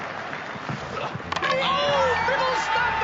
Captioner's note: clapping; bat cracks against ball; grunts